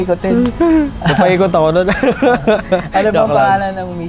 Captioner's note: laughs